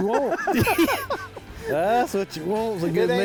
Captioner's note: both laughing